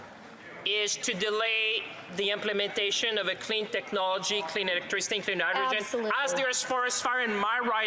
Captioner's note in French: voix de l'interprète